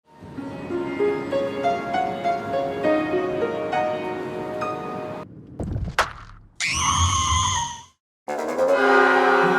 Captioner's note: train rides, piano music, then a girl screams in horror